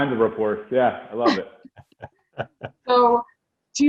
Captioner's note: laughing